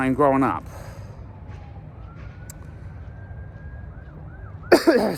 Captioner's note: sirens continue to wail from a distance